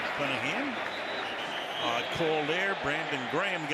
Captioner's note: whistle